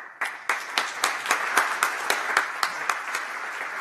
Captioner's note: applause